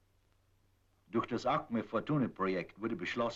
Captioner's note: in German